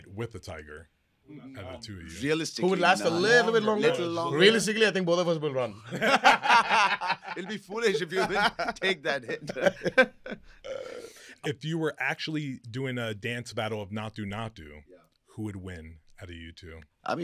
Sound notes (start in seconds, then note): 5.8 both laughing